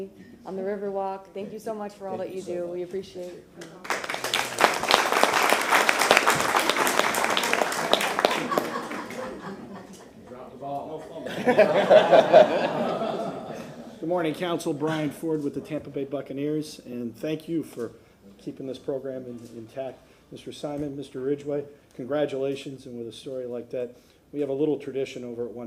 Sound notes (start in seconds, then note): 7.7 applause